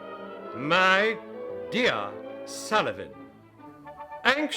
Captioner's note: offended, with pronounced pronunciation